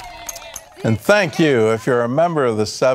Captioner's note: cheering